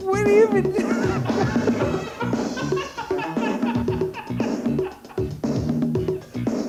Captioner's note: confused laughter